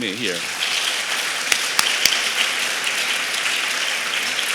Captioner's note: applause